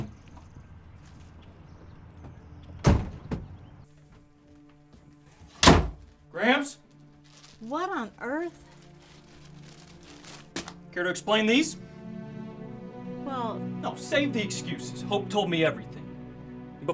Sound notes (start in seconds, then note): 0.7 gentle music; 5.5 door slams; 11.7 gentle music